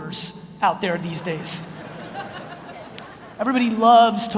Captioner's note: audience laughs